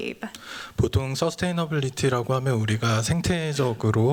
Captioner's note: speaking japanese